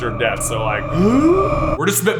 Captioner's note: gasp of alive